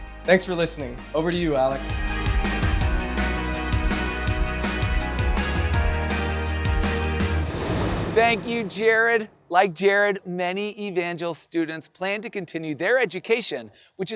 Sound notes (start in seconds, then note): 2.2 upbeat music; 6.7 air whooshing